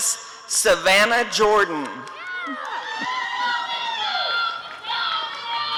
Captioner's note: applause and cheering